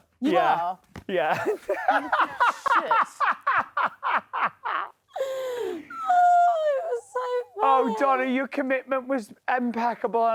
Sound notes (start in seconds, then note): 1.4 laughs